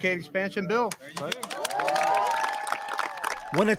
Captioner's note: cheering and applause